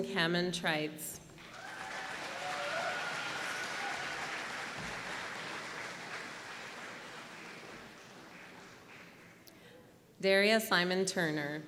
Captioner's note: applause